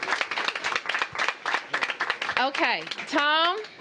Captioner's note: applause